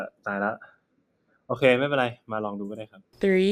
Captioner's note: in Thai